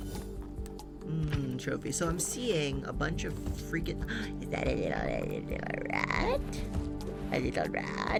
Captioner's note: gasps